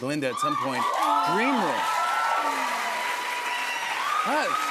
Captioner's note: cheers and applause